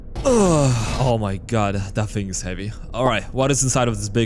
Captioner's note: struggling noises